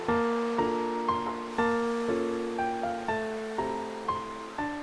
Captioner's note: steaming